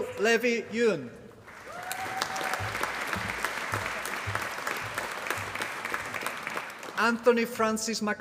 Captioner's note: applause